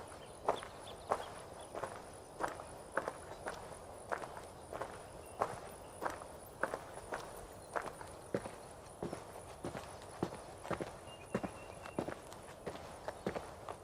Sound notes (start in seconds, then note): 2.5 birds cing